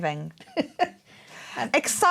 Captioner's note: laughing